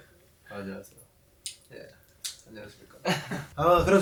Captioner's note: an unexpectedly deep voice